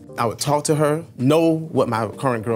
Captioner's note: none